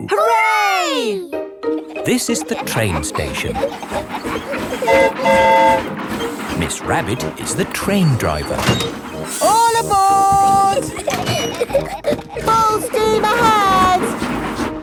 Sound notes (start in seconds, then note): 4.5 train whistle toots; 10.0 giggling